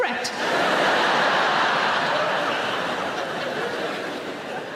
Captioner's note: audience laughing